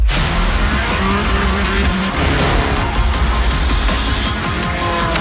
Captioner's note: roaring engines